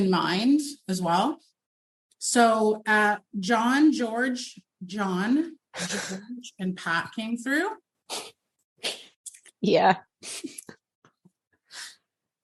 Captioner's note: soft sobs yeah